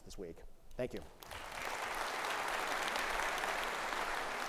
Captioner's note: audience applauds